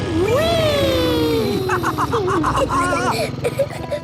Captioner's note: laughs